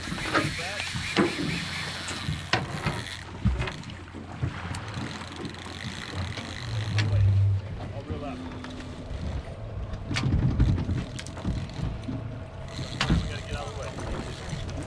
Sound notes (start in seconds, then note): 7.3 reel cranking; 10.9 background chatter; 12.6 reel cranking